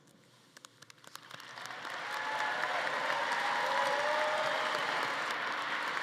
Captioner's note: audience applauding and cheering